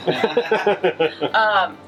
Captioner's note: laughter